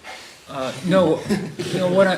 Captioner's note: laughter